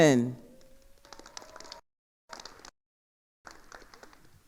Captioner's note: attendees applauding